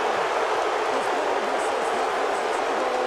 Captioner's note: crowd booing